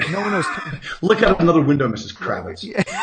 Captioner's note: laughing